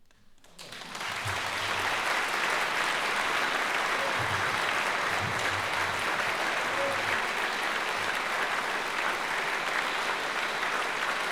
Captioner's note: applause